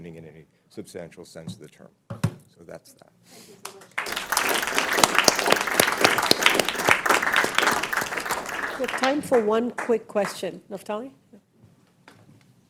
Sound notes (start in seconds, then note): 3.8 audience applauding